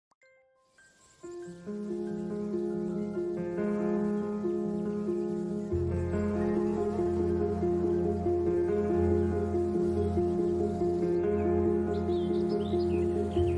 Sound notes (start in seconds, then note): 1.7 birds chirping; 3.9 soft music